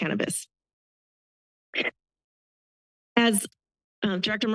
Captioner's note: pause